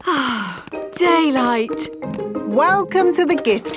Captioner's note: sighs